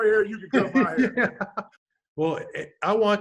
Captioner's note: laughs